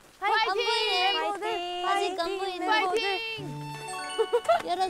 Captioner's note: cheering for them from a distance